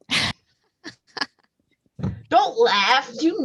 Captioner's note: laughs